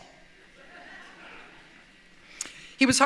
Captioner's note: light laughter